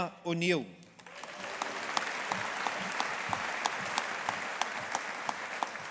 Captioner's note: audience applauding